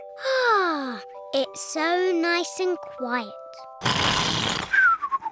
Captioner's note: sighs happily; george snores loudly